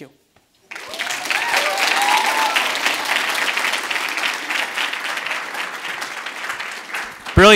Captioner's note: audience applauds and cheers, exits stage